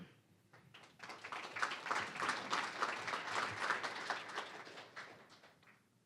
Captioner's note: applause